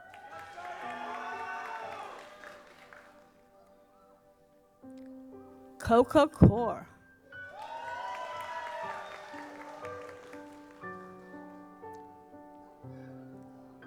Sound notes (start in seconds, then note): 0.0 audience applauds; 7.4 audience applauds; 10.7 gentle music